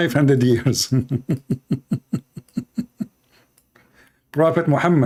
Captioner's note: Ketawa